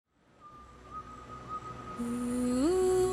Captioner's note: birds chirping